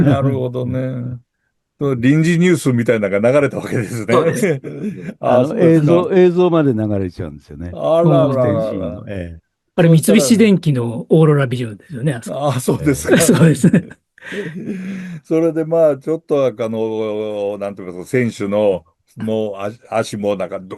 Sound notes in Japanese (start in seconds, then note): 12.8 笑い